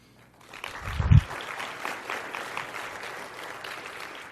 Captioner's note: audience applause